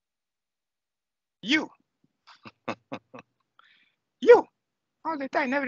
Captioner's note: laughing